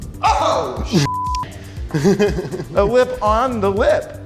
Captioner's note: beep